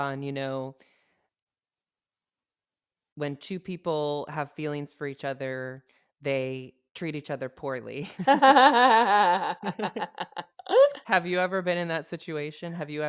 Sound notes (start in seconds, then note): 8.0 both laugh